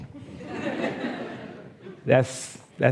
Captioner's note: laughs